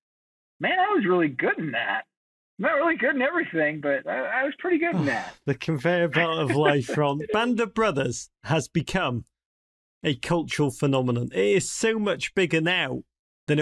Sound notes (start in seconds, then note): 7.8 sighs